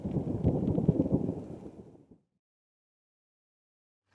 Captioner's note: thunder